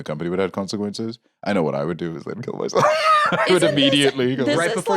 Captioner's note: laughs